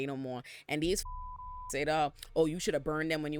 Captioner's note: beep